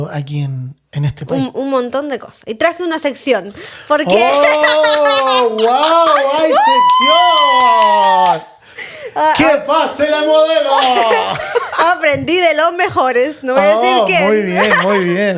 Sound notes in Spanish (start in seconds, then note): 4.2 risas; 6.4 grito; 10.7 risas